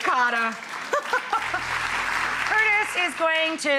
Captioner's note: applause